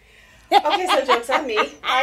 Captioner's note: woman laughing